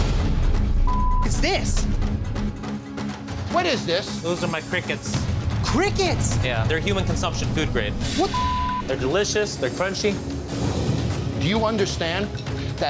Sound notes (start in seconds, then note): 0.8 beep; 8.2 beep